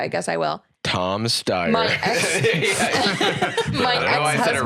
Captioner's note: all laughing